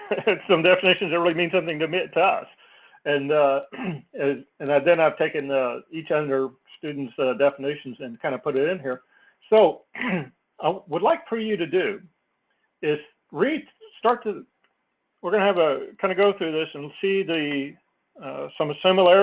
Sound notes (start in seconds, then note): 3.7 cough; 10.0 cough